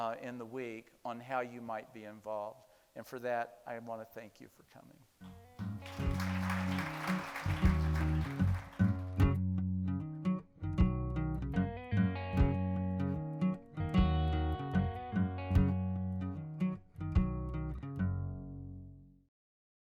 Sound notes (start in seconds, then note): 5.6 people applauding; 9.0 light guitar music